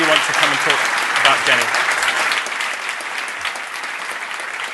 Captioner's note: applause